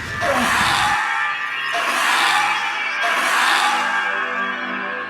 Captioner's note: Luna grunting; dinosaur squawking